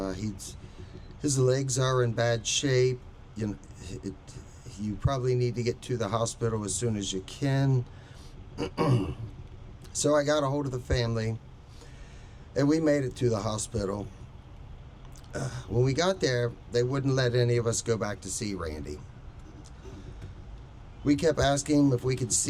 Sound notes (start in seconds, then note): 8.6 clears throat; 15.3 sighs